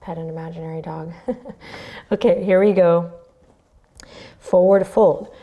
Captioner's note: chuckles